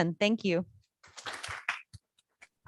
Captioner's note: applause